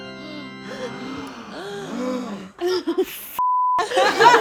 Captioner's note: all gasp; beep